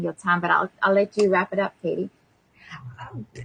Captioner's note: laughs